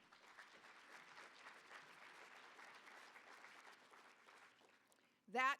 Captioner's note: applause